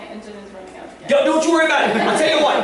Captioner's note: laughter